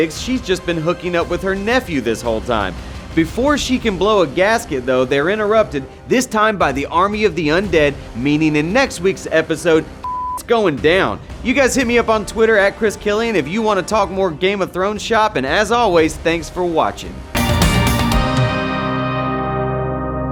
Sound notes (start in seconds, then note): 10.0 beeping; 17.3 melodic sting